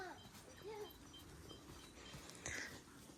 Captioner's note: beeping noises